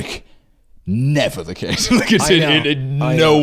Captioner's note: laughs